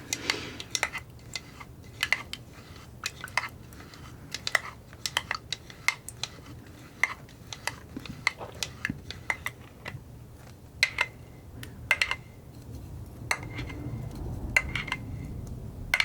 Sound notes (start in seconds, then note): 0.5 scratching